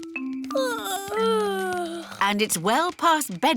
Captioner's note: yawning